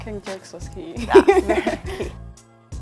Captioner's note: laugh